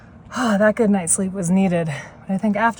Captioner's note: sighs